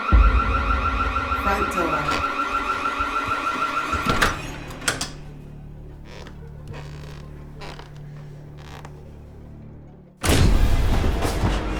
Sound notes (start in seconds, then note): 4.9 locking door; 10.2 door bursting open